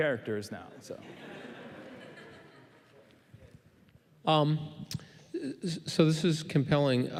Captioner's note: laughing